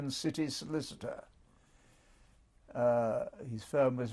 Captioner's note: pauses for 3 seconds